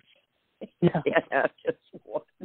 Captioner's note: laughs